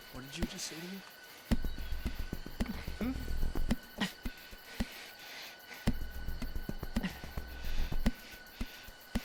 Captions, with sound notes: - What did you just say to me, hmm? (suspenseful music continues) (crickets chirping)